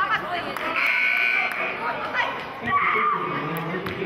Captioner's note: buzzer sounding